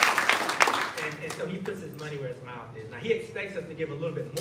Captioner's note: applause